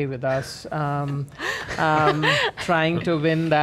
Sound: laughs

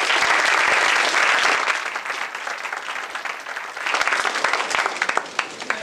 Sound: applause

